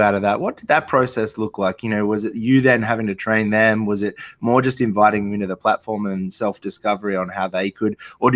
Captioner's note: none